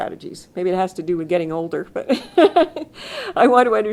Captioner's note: laughs